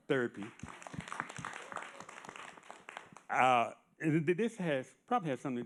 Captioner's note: audience applauding